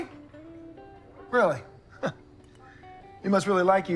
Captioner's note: chuckles